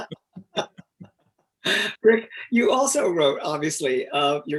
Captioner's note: both laughing